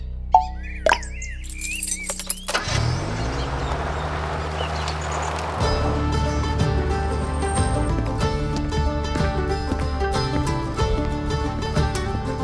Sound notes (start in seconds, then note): 0.2 click; 2.0 car